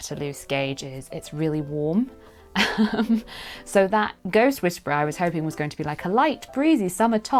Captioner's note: giggle